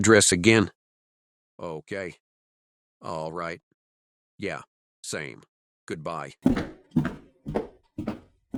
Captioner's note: Rocco finishing up call in background